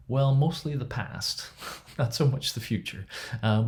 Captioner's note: laughs